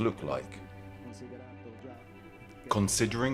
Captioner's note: dramatic music continues; speaking in foreign language